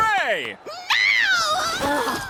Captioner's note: shrieking